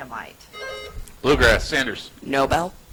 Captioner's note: buzzer chimes